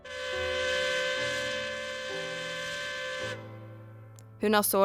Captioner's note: siren is howling